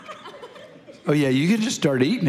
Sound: congregation laughing

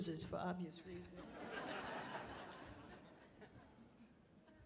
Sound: people laughing

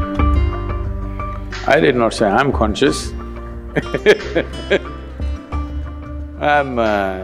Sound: laughs

